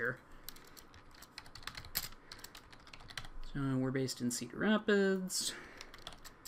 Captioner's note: keys clacking